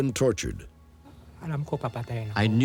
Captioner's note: non-english speech